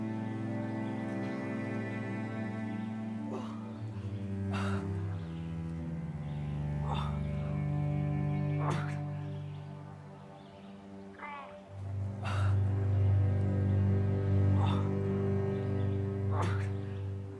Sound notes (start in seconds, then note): 3.4 Arawn groaning; 5.4 soft dramatic music; 14.6 Arawn groaning